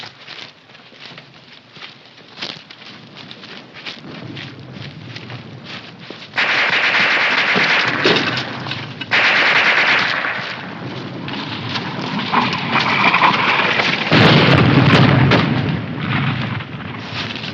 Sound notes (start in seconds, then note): 6.3 machine gun firing; 11.7 artillery whizzing